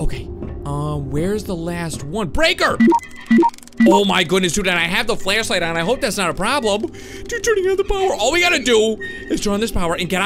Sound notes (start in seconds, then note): 2.8 electronic beeping